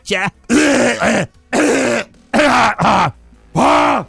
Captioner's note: Falcon coughing